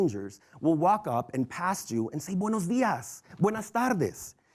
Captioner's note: foreign language